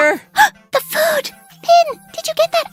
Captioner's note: gasp